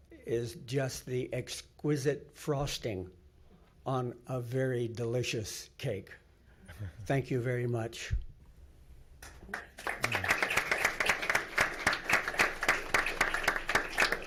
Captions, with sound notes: is just the exquisite frosting on a very delicious cake. Thank you very much. (clapping)